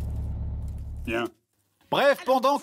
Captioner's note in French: voix malaisante